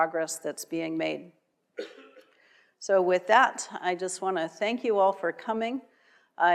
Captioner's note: cough